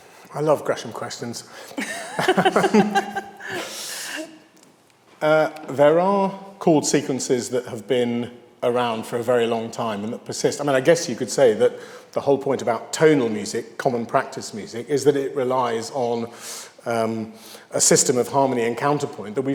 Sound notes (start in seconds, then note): 1.8 host laughing